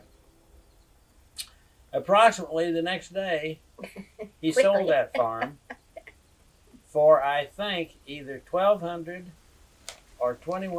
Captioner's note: laughter